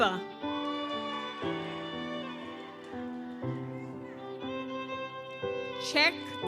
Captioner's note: gentle music continues; audience cheers